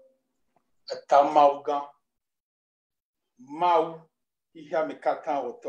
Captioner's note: speaking in foreign language